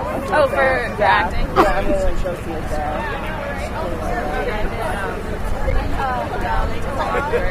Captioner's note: audience chatter